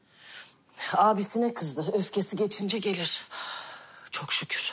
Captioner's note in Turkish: derin nefes verir